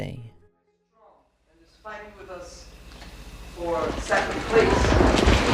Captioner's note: rumbling